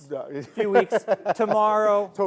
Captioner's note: laughs